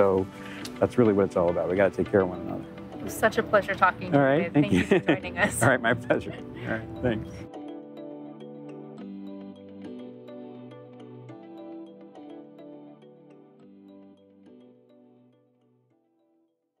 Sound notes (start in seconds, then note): 4.5 chuckling